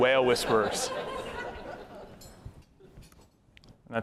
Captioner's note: laughter